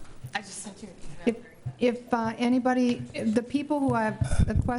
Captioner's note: murmurs